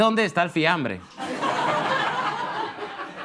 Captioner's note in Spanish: Risas